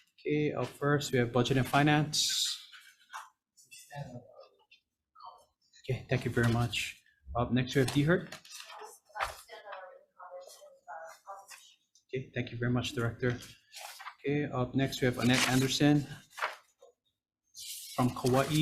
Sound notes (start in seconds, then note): 9.1 speaker speaks away from mic